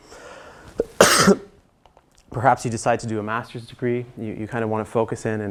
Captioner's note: cough